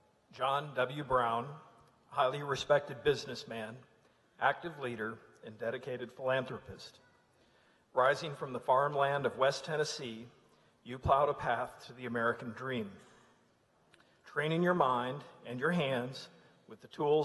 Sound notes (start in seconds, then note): none